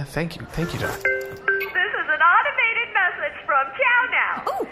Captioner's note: pad chimes